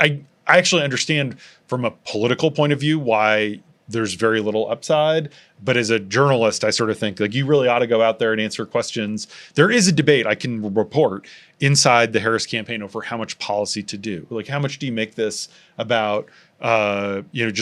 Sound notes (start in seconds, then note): none